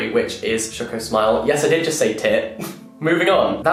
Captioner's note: chuckles